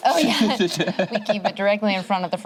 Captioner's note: laughs